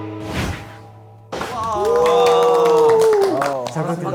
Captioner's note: welcoming applause